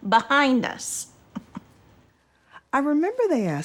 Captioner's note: Holland laughs